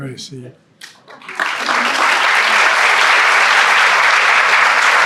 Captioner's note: audience clapping